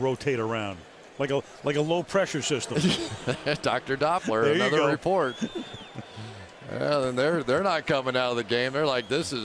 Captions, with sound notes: where they rotate around like a low pressure system. [laughter] Dr. Doppler, another report. There you go. And they're not coming out of the game.